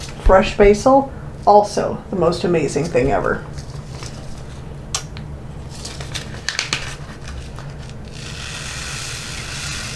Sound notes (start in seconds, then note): 5.6 packet rustling